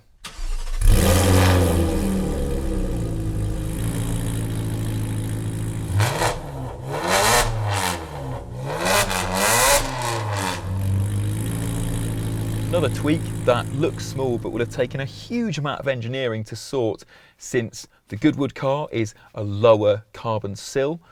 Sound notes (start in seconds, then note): 0.1 engine starts; 5.8 revving